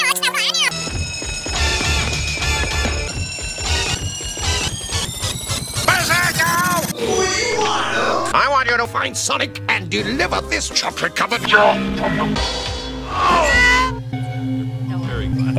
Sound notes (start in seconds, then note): 3.6 The sound goes up in pitch every time Berserko runs by again; 13.0 dyauugh--bhbrggh